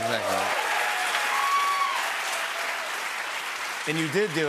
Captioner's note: cheers and applause